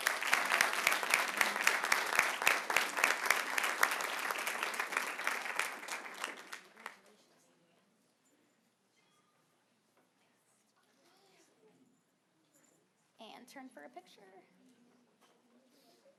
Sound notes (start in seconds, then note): 11.7 applause